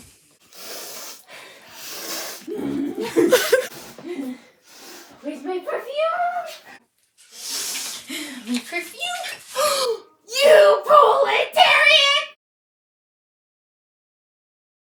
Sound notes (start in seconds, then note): 0.3 aggressive sniffing; 7.2 sniff; 7.4 gasp